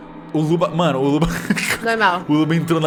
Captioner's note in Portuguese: risada